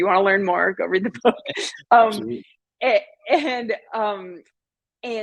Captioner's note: laughter